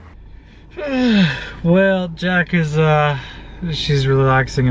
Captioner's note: sigh